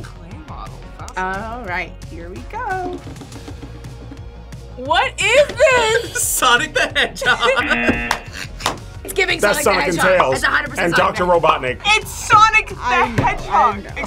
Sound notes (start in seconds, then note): 7.5 buzzer rings; 7.6 buzzer; 7.6 both laugh